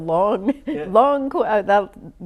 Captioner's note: laughs